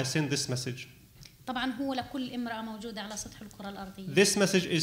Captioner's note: speaking arabic